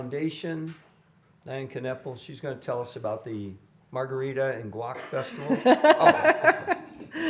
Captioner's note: laughter